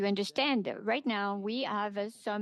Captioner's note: speaking French